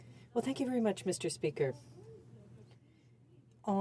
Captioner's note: speaking French